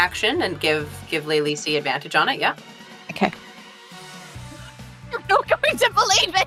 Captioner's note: laughs